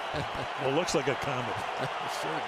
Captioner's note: laughs